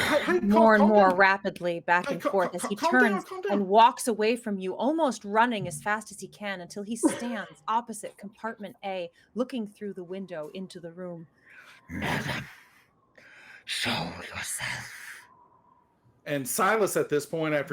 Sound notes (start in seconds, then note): 12.0 heavy voice